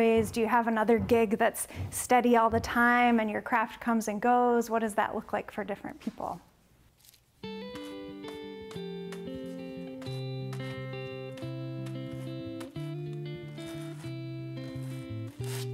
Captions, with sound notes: Do you have another gig that's steady all the time, and your craft comes and goes? What does that look like for different people? [gentle music] [brushing]